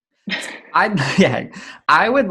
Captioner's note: both laugh